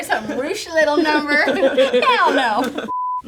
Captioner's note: laughing; color bars beeping